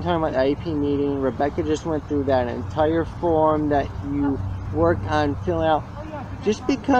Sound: background chatter

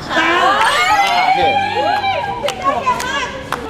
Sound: applauding

